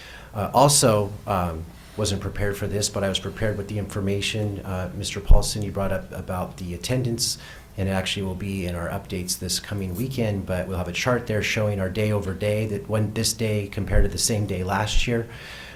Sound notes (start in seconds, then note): none